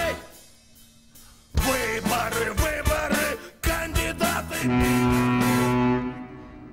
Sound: ship horn sounds

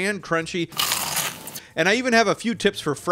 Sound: seitan crunches

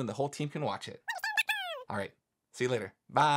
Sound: speaking speedily

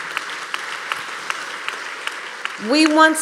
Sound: applause

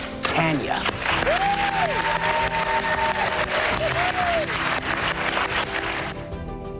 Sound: audience applauds

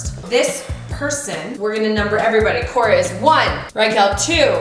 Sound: none

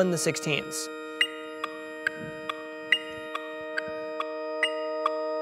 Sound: metronome beats

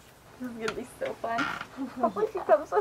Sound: girls chattering

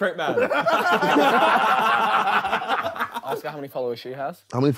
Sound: Sidemen laughing

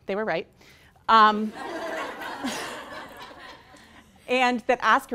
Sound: laughing

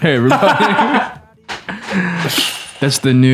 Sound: laughter

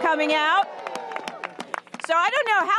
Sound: applause

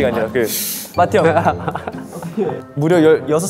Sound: the one born in 2001 burst into laughter

